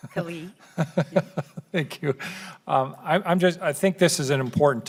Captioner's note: laughing